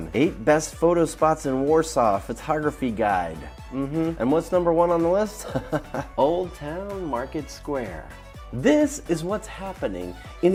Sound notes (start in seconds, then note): 5.4 chuckles